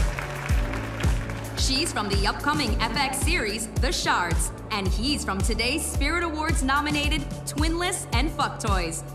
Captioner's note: cheers and applause